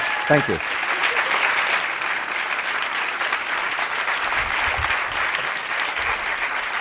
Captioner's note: Applause; 掌聲